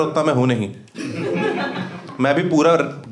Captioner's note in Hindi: हँसना